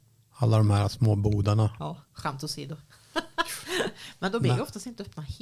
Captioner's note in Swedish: skratt